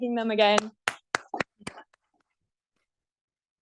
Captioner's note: applause